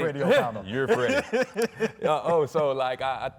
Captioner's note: laughing